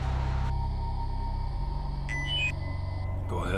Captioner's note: COMM-LINK beeps